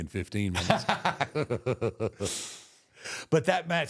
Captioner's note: both laugh